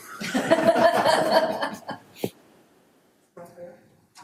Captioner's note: audience laughter